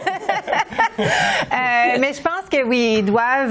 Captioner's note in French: rires